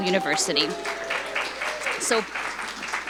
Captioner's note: audience cheering